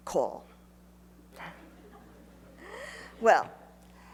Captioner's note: laughs